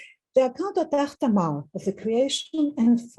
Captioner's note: speaking in foreign language